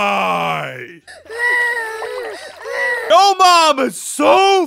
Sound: sobbing

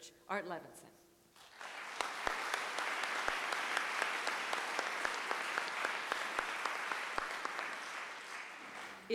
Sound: clapping

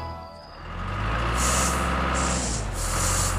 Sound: engine Running

